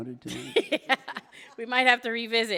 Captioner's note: laughing